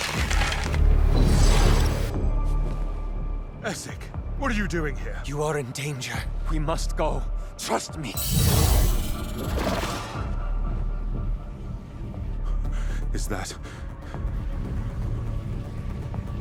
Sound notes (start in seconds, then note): 0.1 bowstrings stretch; 0.1 tense music continues; 8.1 magical chime